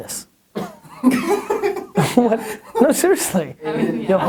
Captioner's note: laughing offscreen